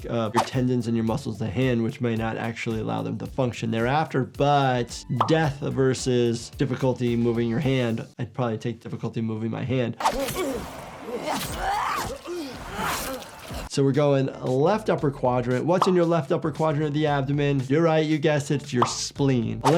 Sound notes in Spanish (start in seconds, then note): 10.0 enemigo gruñendo; 10.1 Senua gruñe